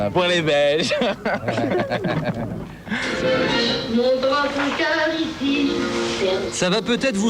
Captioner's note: laughs